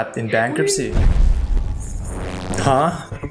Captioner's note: evil whispers